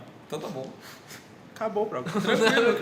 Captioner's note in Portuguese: Risos